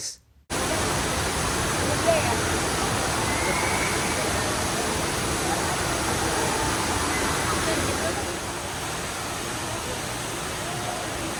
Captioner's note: Rain Vortex Waterfall sounds